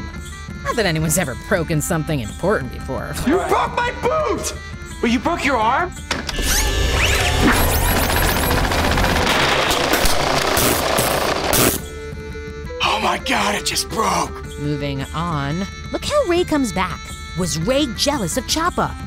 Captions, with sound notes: Not that anyone's ever broken something important before. You broke my boot! Well, you broke your arm! [whirring] [rattling] Oh, my god, it just broke. Moving on. Look how Ray comes back. Was Ray jealous of Chapa?